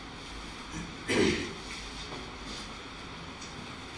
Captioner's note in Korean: 목을 가다듬음